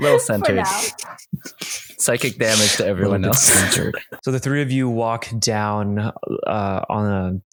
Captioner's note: laughter